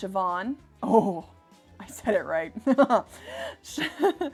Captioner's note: laughing